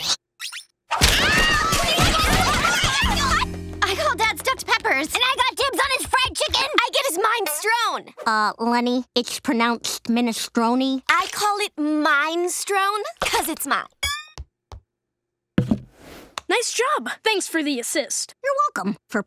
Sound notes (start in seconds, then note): 0.9 all screaming